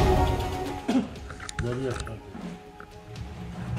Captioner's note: coughing